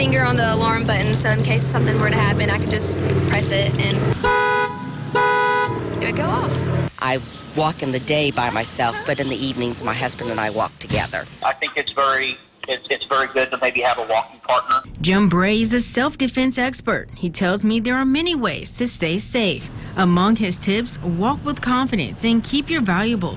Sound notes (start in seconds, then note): 6.4 alarm nats